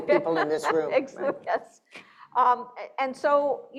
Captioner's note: laughing